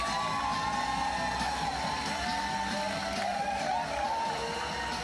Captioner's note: audience applauding and cheering continues